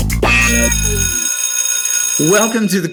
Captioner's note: school bell ringing